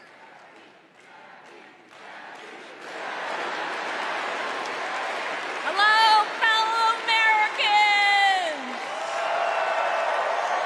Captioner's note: crowd chanting